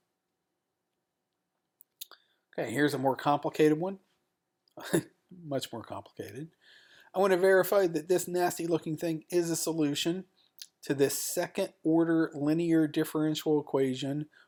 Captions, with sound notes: Here's a more complicated one-- [CHUCKLES] much more complicated. I want to verify that this nasty-looking thing is a solution to this second order linear differential equation,